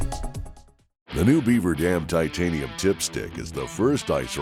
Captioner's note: upbeat music; voiceover